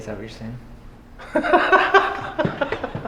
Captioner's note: laughing